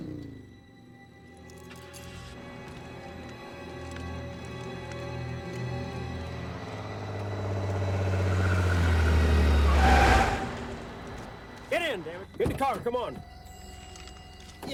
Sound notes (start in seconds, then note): 2.1 car starting; 7.6 car revving; 7.6 tires screeching